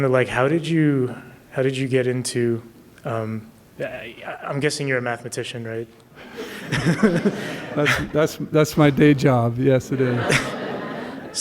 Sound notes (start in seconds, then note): 6.2 laughs; 9.9 laughter